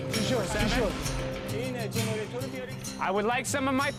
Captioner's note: speaking foreign language